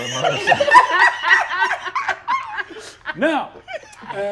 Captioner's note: all laughing